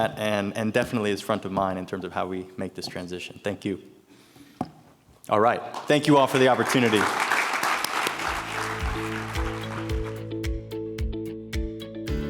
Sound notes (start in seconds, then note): 7.2 everyone applauding; 8.1 gentle upbeat music